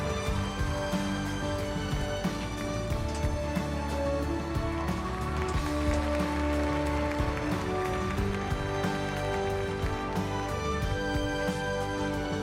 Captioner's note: applause